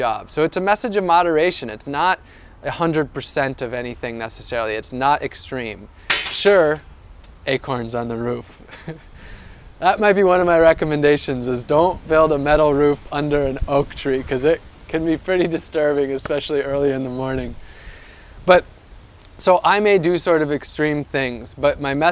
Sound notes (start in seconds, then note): 6.1 clank sound; 8.6 laughs